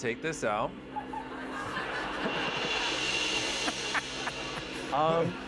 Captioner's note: laughter